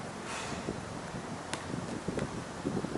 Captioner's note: exhales loudly; wind howling; basket ball tapping